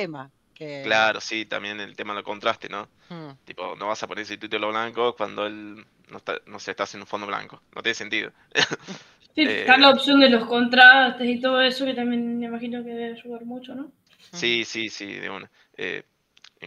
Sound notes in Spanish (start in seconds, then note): 8.5 risas